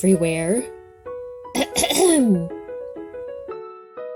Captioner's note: Koha clearing throat